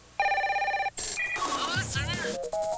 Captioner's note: phone rings